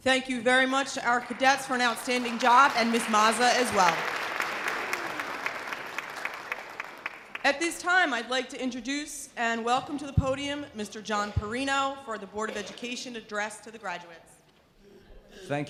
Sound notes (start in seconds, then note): 4.6 audience applause